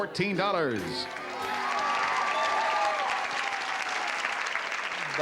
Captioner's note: cheering